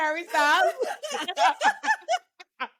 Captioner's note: laughs